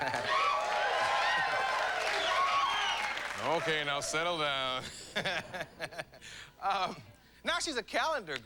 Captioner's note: applause